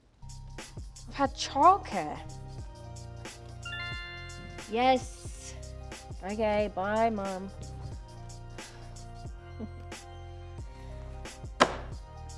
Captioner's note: notification sound